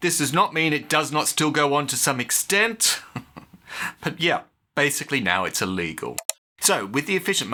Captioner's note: chuckle